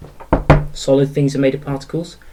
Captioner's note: knock knock